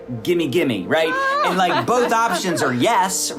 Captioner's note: laughing